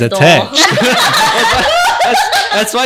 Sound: monkey Laughter

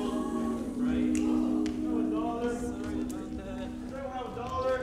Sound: group chatters

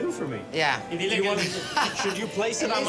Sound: laughs

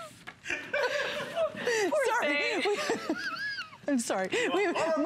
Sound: laughter

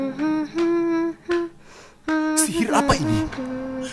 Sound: humming

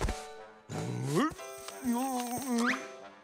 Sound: grunting

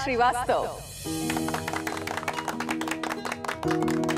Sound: clapping

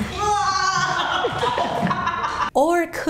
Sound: laughing

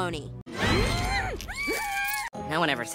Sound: muffled screaming

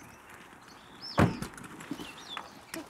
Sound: car doors slams

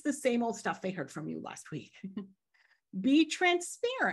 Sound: chuckles

